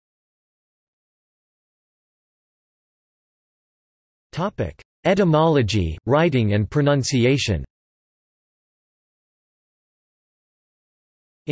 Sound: Mandarin

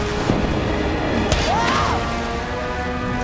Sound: screaming

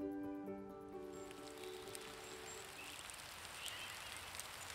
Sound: rain pouring down

